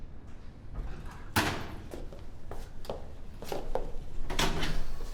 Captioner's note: door clicks; door thuds